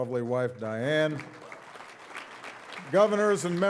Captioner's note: audience applauding